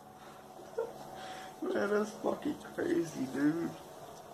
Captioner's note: laughs